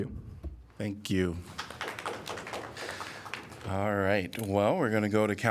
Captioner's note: applause